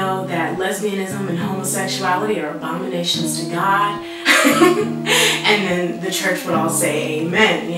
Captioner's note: laugh